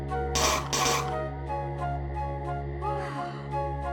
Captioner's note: יריקה